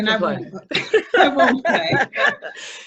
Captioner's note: laughs